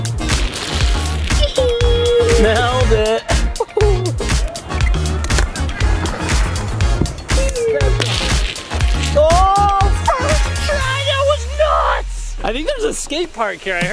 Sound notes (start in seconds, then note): 1.4 chuckles; 1.4 giggles; 5.2 chuckling